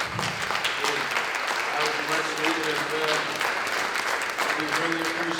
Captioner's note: applause